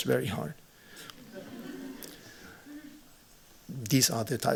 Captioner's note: laughter